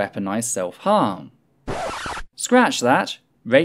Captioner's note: record Scratch